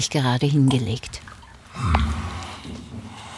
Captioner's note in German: Schnaufen